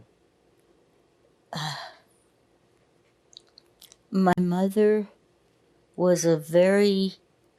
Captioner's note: sighing